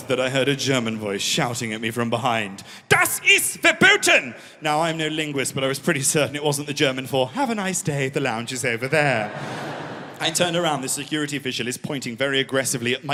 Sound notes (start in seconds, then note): 3.0 in German